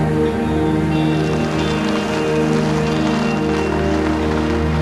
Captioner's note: vehicle driving on gravel